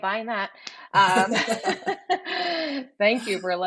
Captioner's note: both laughing